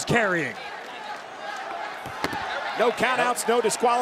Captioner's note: crowd chanting